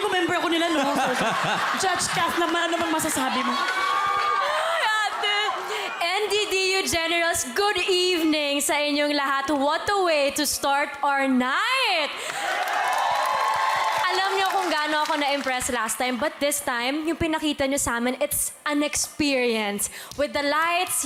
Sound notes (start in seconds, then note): 0.5 laughter; 12.2 cheering, applauding